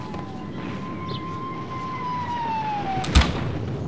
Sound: soldiers Foot marching & Sirens Sound

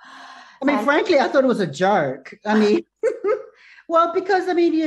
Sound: chuckles

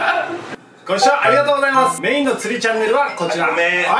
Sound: ringtone

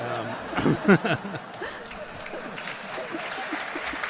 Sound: laughter; applause

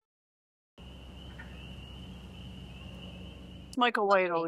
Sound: nature sounds

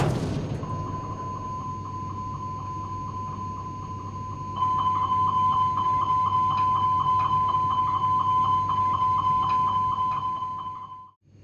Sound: beeping of the master warning

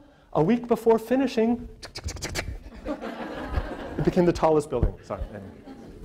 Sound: presenter makes building sound

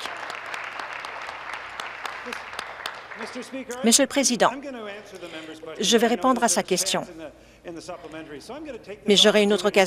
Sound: applause

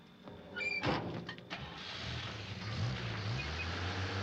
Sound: starts engine

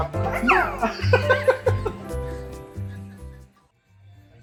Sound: laughing

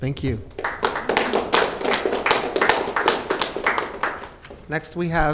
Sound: audience clapping

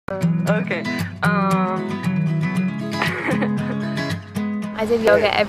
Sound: laughing

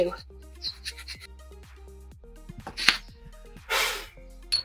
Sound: chalk scraping; blows loudly

